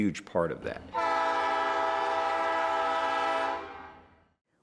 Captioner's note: train horn